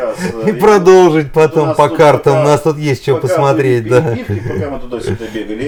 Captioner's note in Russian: смех; смех